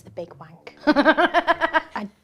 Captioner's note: laughs